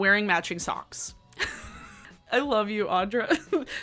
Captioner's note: laughing